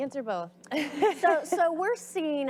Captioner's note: audience laughs